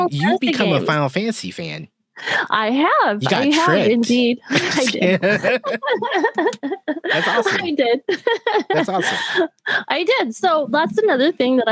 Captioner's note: laughter